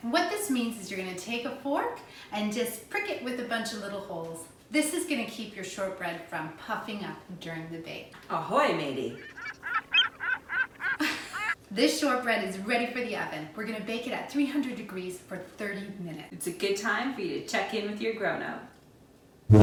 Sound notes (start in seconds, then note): 9.1 seagulls squawking